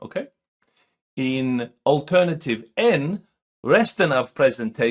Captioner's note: speaking swedish